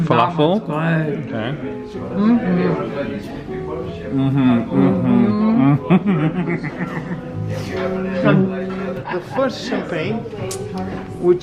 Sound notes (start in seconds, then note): 6.6 chuckles